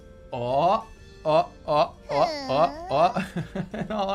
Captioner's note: chuckles